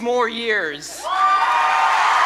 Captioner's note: applause